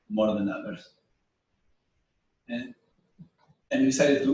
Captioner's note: pause